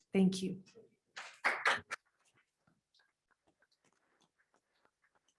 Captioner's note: applause